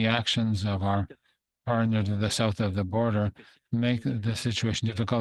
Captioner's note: speaking French